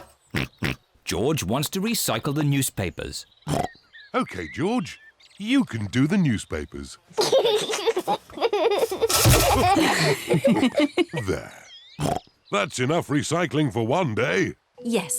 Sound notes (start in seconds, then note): 0.2 snorts; 7.1 giggles; 12.0 snorts